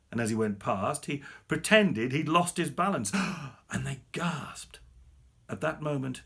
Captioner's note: he gasps